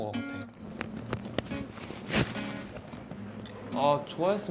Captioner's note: putting on the earphones